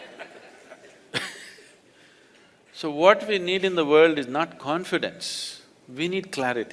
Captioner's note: laughter